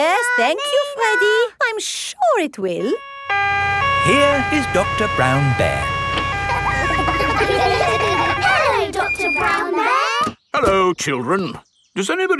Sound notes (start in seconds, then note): 2.8 siren wailing; 6.2 kids laughing